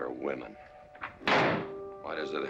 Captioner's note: door slams